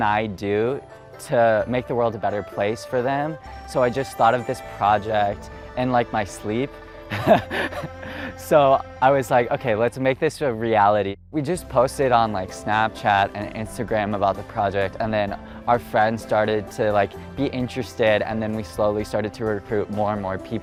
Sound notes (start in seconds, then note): 7.1 laughing